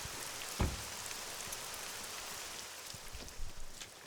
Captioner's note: car door slums